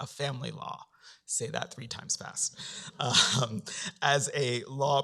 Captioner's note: laughs